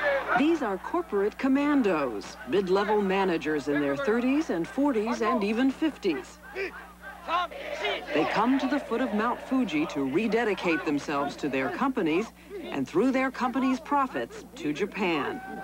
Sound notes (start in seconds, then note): 6.4 reciting orders